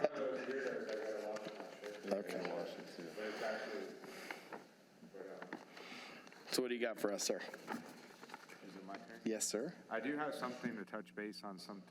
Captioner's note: laughter